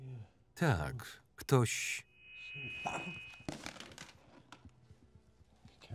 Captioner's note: loud screeching noise